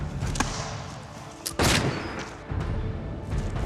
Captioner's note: shots firing